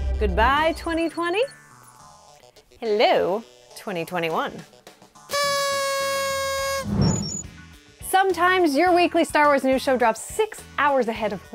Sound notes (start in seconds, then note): 5.3 party horn